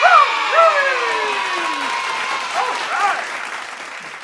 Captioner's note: cheering